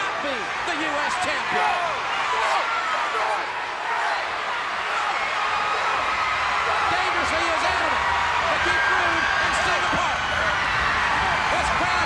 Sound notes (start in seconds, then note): 5.5 crowd shouting